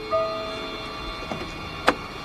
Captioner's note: hood slamming